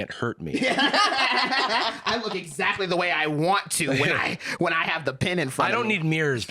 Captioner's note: laughs